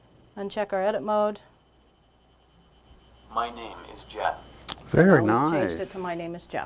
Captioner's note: device speaking: My name is Jeff